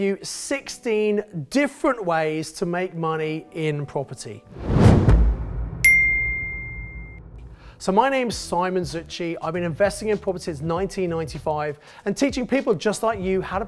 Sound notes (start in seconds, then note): 4.5 logo whooshes; 5.8 logo dings